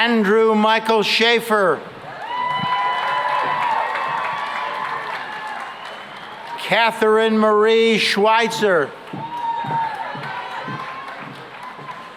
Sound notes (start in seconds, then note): 2.0 cheering and applause; 9.0 cheering and applause